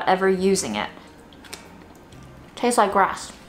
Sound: corn silk ripping

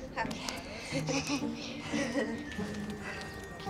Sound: both chuckle

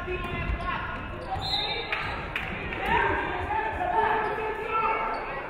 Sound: referee whistles

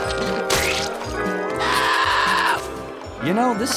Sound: screaming

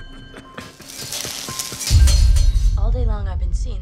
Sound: metal clanging

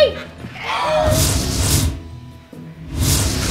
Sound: all gasp

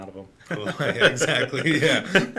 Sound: both laughing

